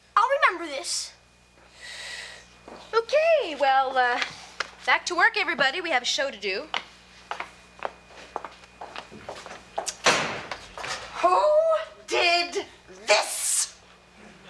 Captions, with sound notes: I'll remember this. - Okay, well, back to work, everybody. We have a show to do. (door slamming) Who did this?